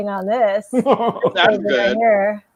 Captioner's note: laughing